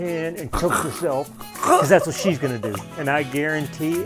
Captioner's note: gasp